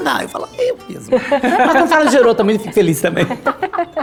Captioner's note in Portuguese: risos